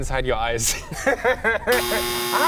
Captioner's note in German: Gelächter